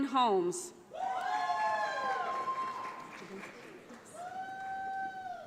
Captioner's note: audience applauds